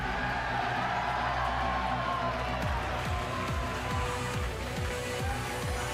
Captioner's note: cheers and applause